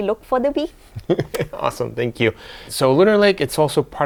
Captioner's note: laughs